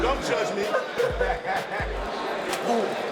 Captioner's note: inmates laughing